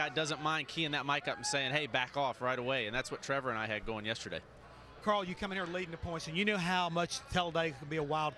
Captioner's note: none